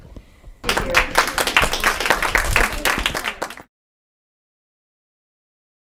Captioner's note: audience applauding